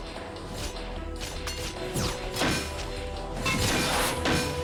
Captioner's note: pieces of suit clank as pieces lock into place